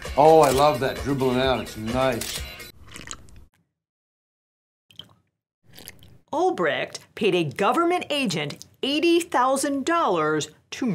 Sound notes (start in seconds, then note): 2.2 shutter snapping; 2.7 slurping